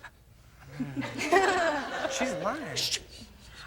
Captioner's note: audience laughs